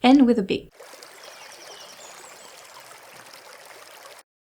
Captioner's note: birds & small stream sounds